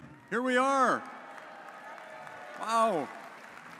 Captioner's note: audience cheers